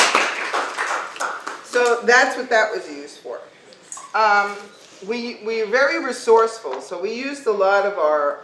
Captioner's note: clapping